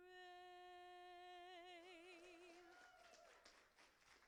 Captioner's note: applauding